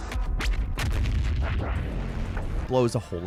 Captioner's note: cannon firing